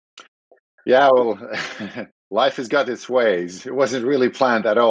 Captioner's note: laughs